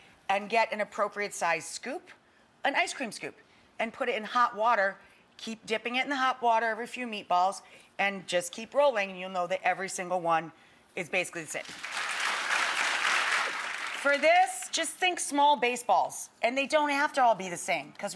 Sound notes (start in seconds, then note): 11.6 crowd clapping